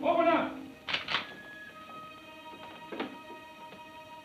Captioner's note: gun clicks